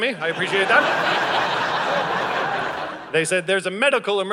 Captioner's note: audience laughing